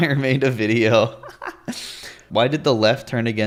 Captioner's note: laughs